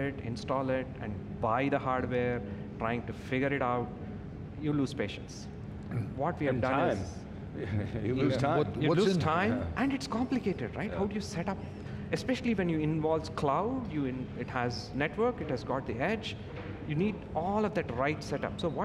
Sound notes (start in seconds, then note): 7.6 giggles